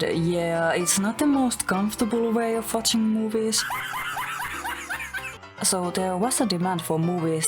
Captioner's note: Mutahar laughs at boomer meme